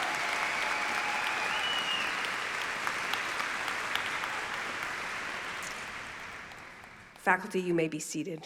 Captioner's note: applause